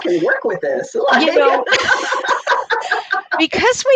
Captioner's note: laughs